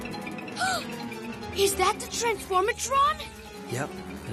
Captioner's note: gasp